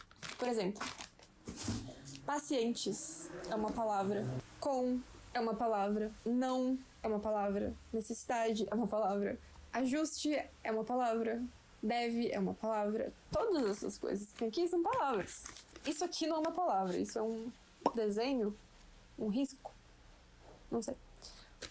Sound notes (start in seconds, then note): 18.2 pop